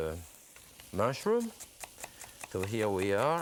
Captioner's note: knife slicing